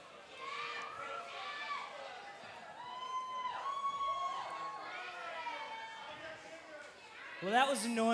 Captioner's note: cheers and applause